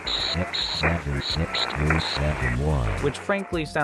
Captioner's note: Robotic voice reads numbers